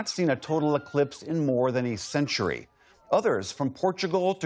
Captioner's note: cheering